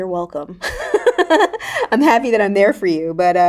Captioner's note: Raven-Symone laughing